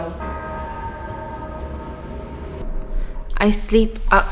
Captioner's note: bell tolling